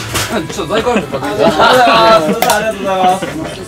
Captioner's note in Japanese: 笑い